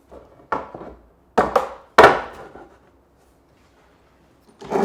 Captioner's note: board clacking